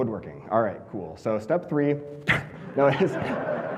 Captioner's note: audience laughing